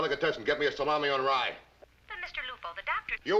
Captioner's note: voiceover